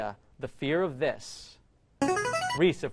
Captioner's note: ringer